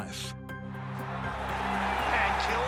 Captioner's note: crowd cheering